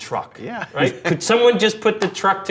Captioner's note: laughs